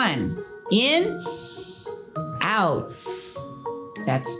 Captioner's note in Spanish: inhala bruscamente; Silbido de respiración